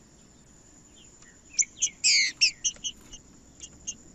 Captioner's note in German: trinca ferro cantando